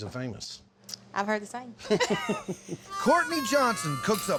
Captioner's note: both laugh